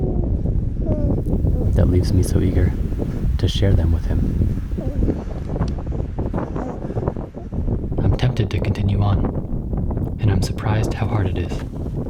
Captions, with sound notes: that leaves me so eager to share them with him. [wind rustling] [baby coos] I'm tempted to continue on and I'm surprised how hard it is.